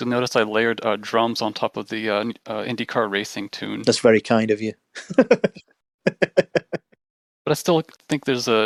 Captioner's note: laughter